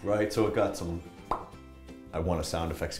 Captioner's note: pop